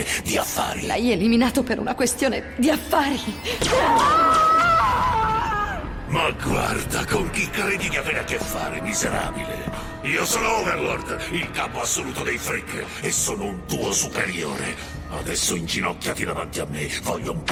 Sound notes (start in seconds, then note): 3.1 laser gunfire; 3.6 screams